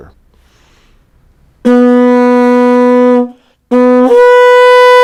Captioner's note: shell blowing